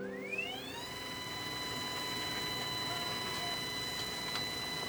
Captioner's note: machine whirs